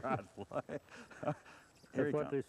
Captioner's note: laughter